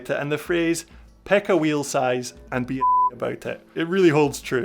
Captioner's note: beep